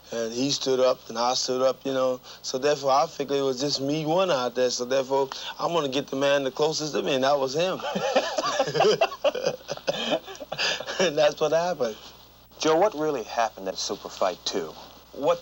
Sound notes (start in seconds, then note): 7.8 both laughing